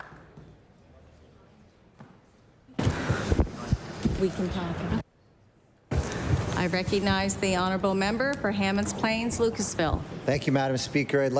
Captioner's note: applause